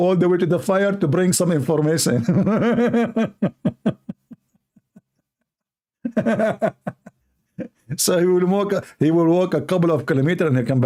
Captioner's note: Ketawa